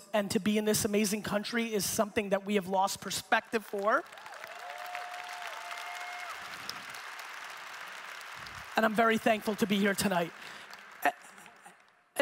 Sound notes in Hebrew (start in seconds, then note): 3.5 הקהל מוחא כפיים